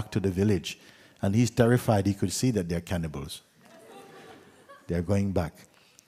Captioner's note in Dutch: gelach